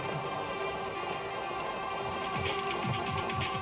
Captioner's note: oil pump spinning